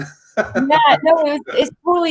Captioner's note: chuckles